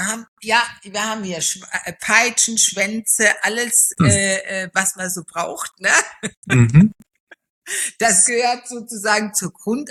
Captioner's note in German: gelächter